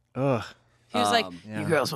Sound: groans

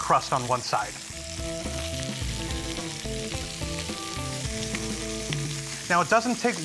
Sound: shrimp sizzling

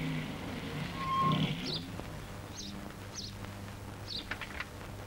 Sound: birds Chirping

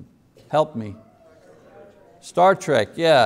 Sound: congregation murmurs

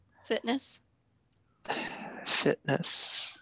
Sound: sighs

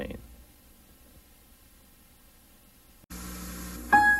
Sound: videocassette static

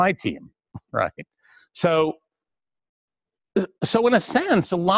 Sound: pause

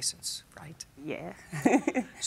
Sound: laughs

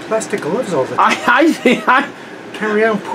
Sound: laughing

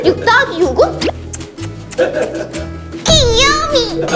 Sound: kissing

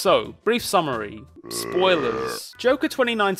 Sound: man belching

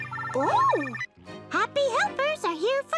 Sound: phone rings

